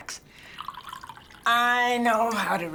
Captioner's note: wine splashing